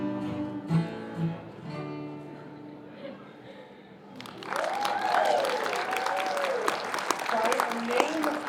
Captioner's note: cheering